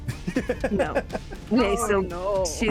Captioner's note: laughs